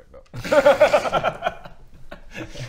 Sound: fatalistic laughs

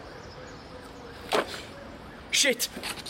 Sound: books fumble

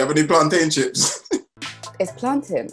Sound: laughing

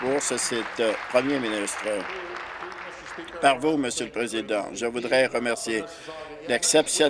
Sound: applause

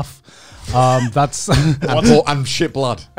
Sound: laughing

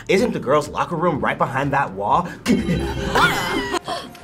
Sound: gasps

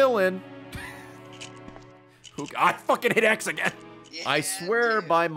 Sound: laughs

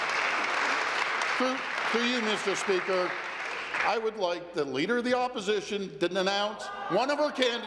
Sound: applause

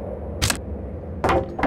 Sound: board falls

